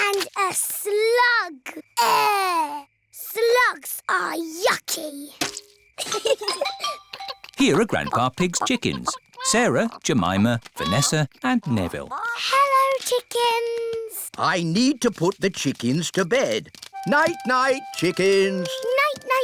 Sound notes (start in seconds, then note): 6.0 both giggle